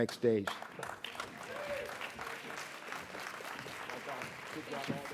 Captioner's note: audience applauds